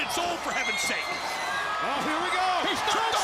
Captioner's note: crowd chatter